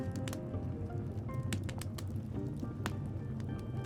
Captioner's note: fire crackling